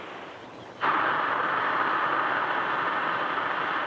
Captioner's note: air hisses